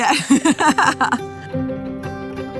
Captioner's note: laughing